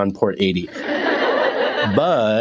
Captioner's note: laugh track